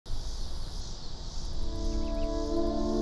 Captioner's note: birds chirp; gentle music